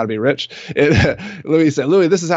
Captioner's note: laughing